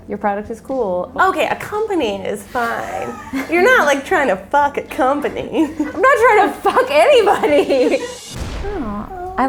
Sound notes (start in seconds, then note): 2.8 laughter; 7.9 laughing